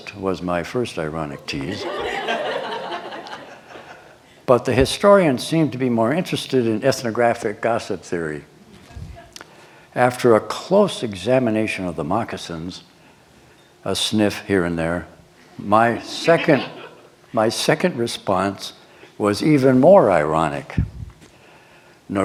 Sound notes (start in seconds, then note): 1.7 laughter